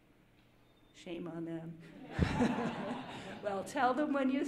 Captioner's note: audience laughing